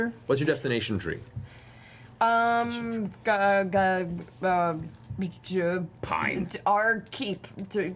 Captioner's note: stammers